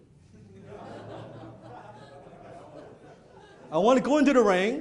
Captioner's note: audience laughing